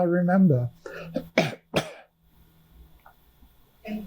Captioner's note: coughing